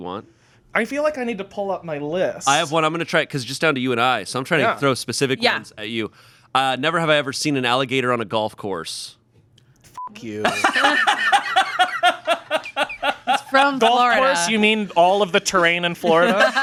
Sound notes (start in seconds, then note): 10.0 beep; 10.4 laughing